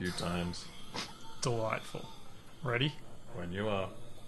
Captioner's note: scoffs